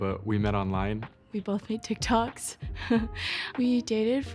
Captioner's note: laughing